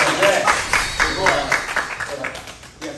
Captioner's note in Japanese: 拍手